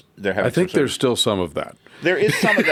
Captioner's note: laughs